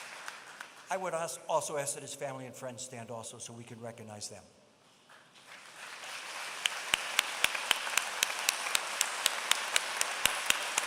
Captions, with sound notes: I would ask also that his family and friends stand also, so we could recognize them. [APPLAUSE]